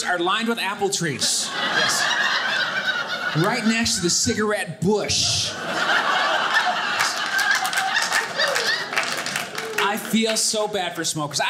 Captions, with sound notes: are lined with apple trees. (audience laughing) Right next to the cigarette bush. (audience laughing) I feel so bad for smokers.